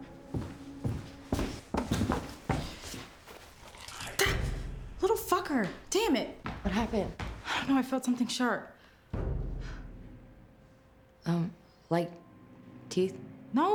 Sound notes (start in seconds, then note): 4.4 gasps; 9.1 sinister music